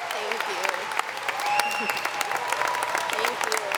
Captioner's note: audience applauding